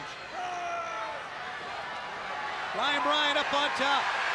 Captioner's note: crowd cheering